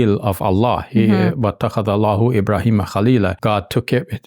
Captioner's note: speaking Arabic